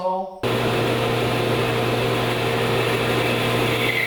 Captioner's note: saw humming